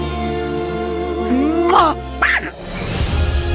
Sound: kiss Sound

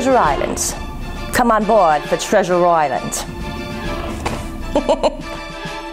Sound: laugh

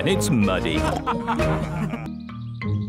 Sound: all laughing

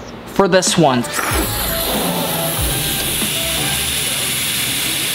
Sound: helium blowing

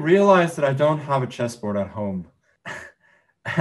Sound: laughs

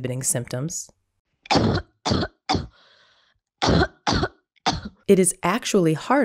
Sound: choking short coughs

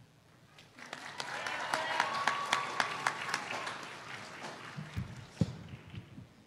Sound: applause

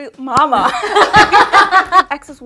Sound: everyone laughing

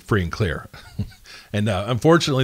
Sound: laughs

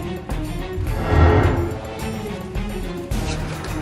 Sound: heavy whooshing

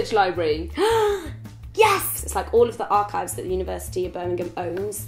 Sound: gasps

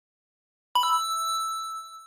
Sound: coin sound effect

